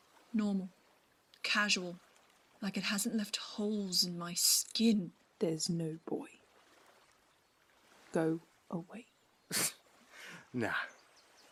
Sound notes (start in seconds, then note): 8.6 Lucius snorts